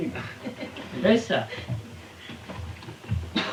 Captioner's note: Italian